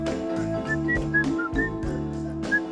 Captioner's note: whistling